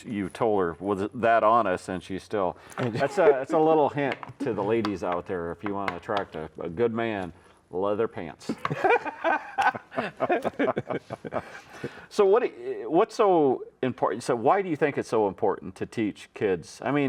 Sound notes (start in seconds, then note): 8.5 both laughing